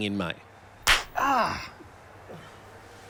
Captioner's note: slap